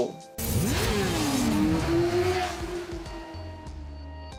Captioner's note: motorcycle engines roaring; gentle music